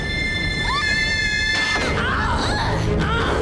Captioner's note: screaming; grunting